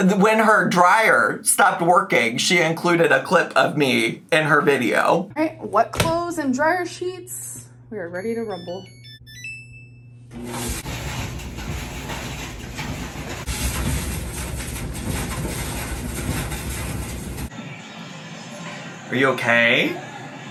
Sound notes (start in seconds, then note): 8.1 machine beeps; 10.4 dryer tumbles